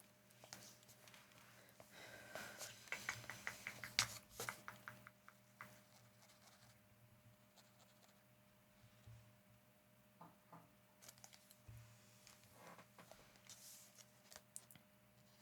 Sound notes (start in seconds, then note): 2.8 silence